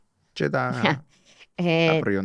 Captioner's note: she laughs